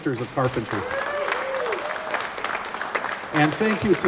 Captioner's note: applause